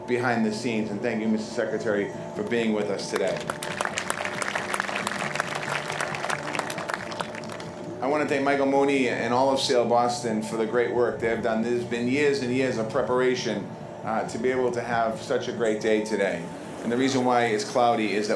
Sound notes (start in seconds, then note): 7.1 applause